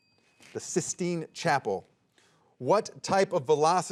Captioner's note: soft chiming